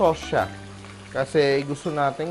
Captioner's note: sizzle